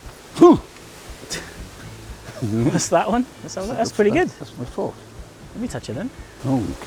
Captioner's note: laughs